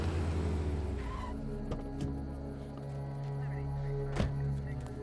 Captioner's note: car engine roaring; tires squealing; car door slams shut